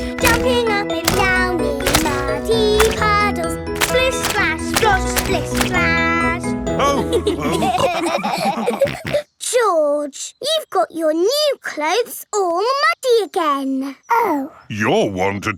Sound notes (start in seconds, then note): 6.9 all laughing